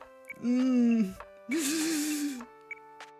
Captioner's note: takes tense breath